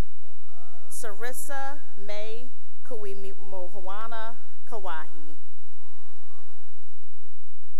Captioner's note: cheering; cheering